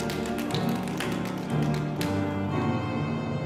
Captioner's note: applause